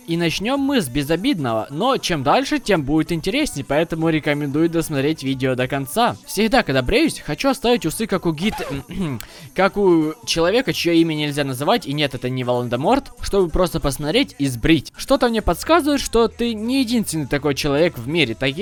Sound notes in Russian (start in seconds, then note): 8.5 кхе-кхе